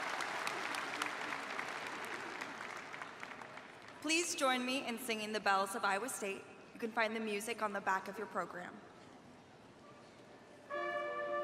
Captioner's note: cheers and applause